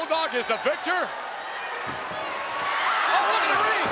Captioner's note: crowd cheering